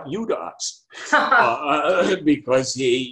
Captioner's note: laughing